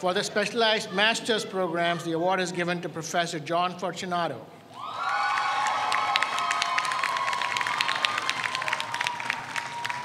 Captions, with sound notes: For the specialized master's programs, the award is given to Professor John Fortunato. (audience cheers)